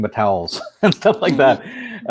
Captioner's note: laughing